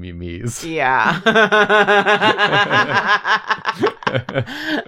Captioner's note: laughter